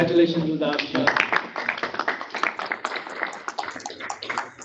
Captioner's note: group claps